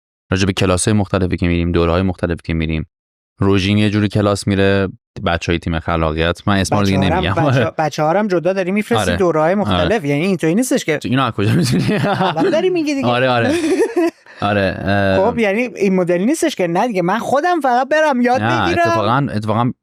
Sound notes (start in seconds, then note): 11.4 laughs